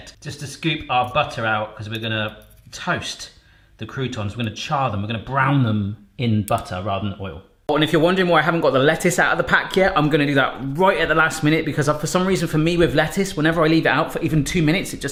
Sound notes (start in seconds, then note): none